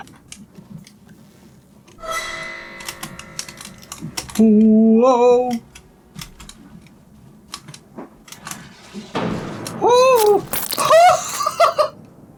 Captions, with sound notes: [clicking] Whoa. [clicking] Ooooh! [laughs]